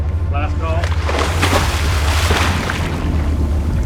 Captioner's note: water splashing; suspenseful music